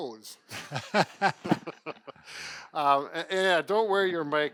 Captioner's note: both laughing